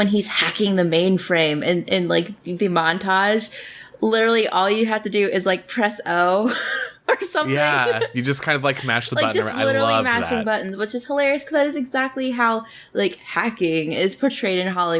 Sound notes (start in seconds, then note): 7.2 laughs